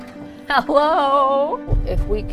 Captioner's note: knocking on door